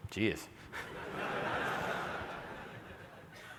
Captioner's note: laughter